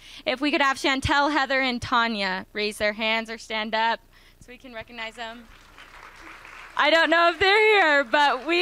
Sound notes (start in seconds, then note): 5.1 applause